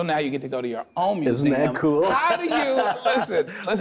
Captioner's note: laughs